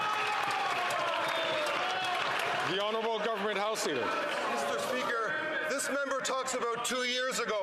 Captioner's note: some Applause